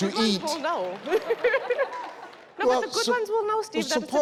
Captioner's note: laughs